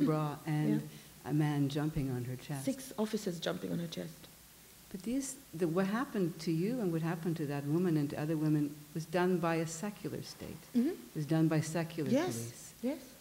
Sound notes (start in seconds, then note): none